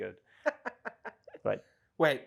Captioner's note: laughs